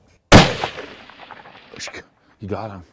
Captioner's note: gun fires